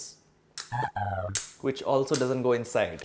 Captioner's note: cling sound